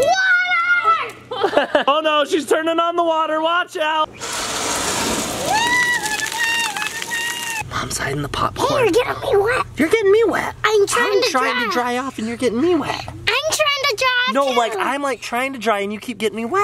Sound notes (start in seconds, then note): 1.3 laughing; 4.1 water splashing; 5.4 screaming